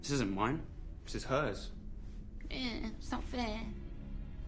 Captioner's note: lN HIGH-PlTCHED VOlCE